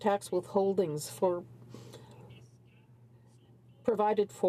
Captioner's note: speaking in french